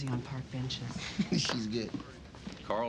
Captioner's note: chuckling